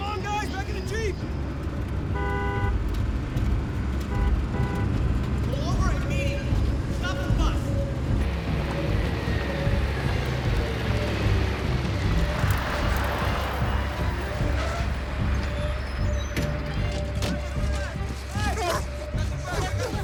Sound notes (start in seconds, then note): 2.3 horns honking; 8.5 adventurous music